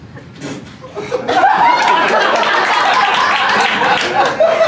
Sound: laughter & applause

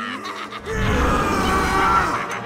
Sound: rage inducing scream

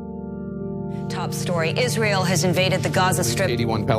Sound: news soundbites

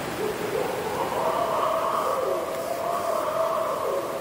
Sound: barred owl whooping

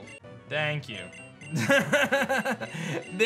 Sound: laughs

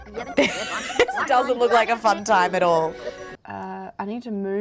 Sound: laughs

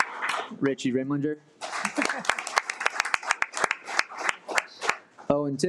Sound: audience applauding; audience applauding

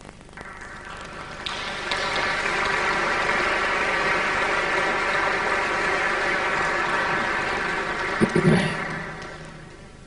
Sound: applause

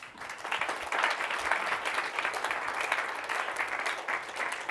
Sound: applause

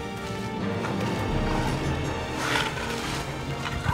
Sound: snorting

